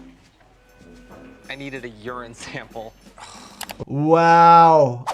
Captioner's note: patient sighing